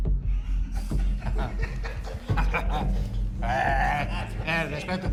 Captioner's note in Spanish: Risas